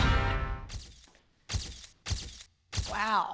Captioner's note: camera flashing sound